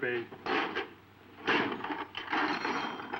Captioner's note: objects clanking; drawer clanking